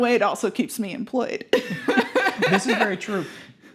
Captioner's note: laughing